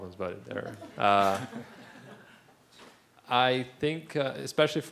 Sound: laugh

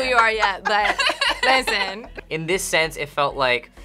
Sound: group laughs

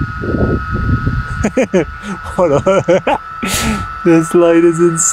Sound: speaker laughing

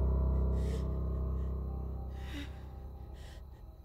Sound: crying

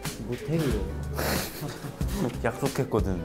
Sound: laughing

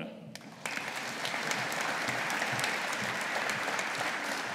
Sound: audience applauding

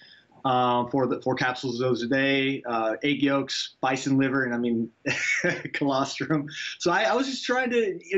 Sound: laughs

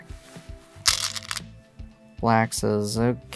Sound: stones rattling

